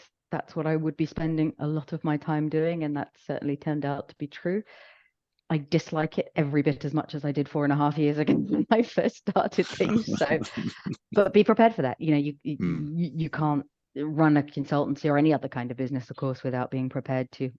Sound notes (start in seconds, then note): 9.6 laughs